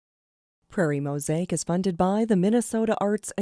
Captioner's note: voiceover